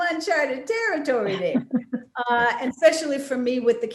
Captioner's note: Wanda giggling